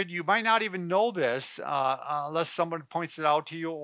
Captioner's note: none